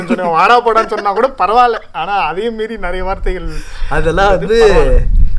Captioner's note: indistinct laughter